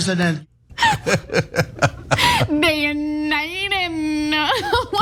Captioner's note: laugh; laugh